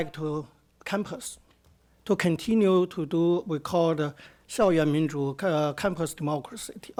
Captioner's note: speaks Mandarin